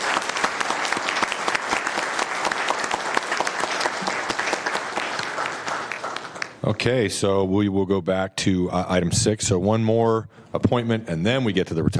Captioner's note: applause